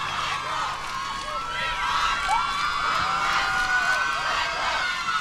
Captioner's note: crowd cheering